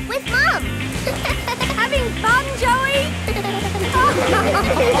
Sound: giggles; laughing

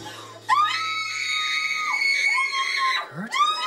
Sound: screaming; screaming Continues

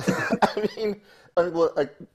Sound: laughing

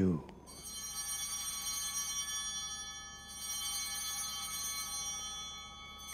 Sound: bells ringing

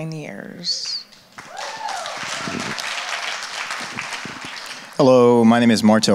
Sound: audience applauds

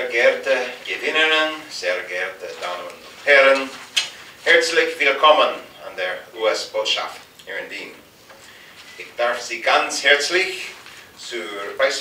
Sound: speaking in German

